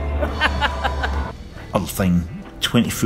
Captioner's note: laughs